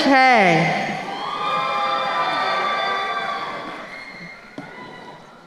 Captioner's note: crowd cheering